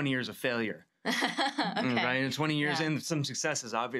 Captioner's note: laughs